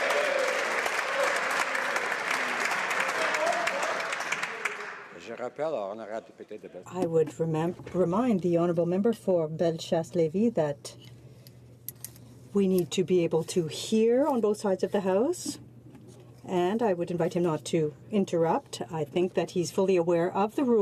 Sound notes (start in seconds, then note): 2.0 some Applause